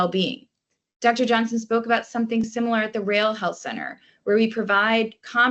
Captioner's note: rales